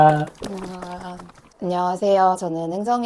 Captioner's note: clap